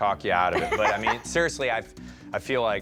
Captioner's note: laughs